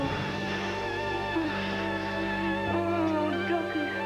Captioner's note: moaning